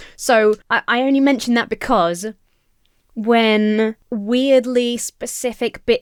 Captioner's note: none